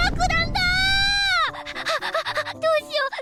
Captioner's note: hyperventilation